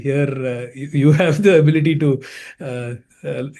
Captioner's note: chuckling